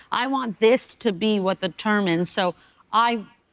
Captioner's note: none